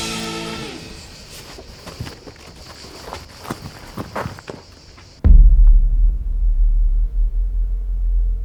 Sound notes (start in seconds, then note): 0.9 footsteps crunching; 5.5 dramatic music